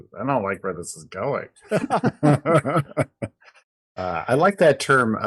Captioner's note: laughing